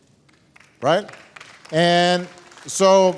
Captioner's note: applause